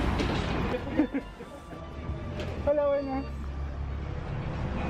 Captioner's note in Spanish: risas